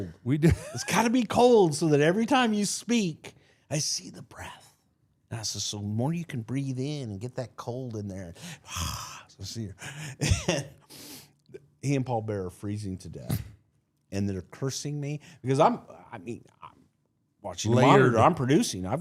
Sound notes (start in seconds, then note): 9.7 laughs; 10.8 exhales